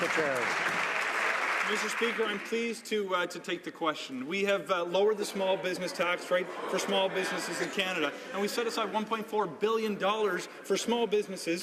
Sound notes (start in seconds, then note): 0.0 some Applause